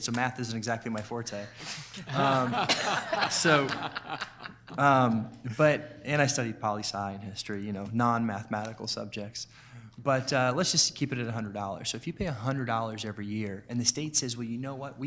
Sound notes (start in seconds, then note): 1.8 clapping; 1.9 all laughing